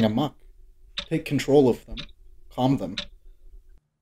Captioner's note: clock ticking